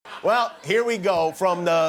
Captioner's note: laughter